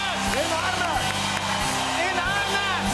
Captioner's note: cheers and applause